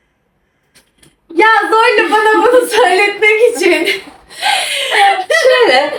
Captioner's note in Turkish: kahkaha